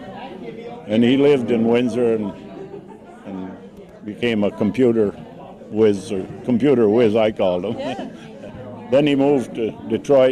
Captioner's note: laughs